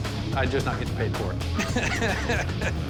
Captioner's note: laughs